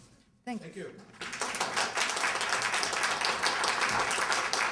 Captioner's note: applause